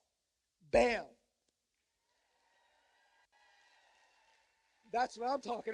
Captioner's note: cheers and applause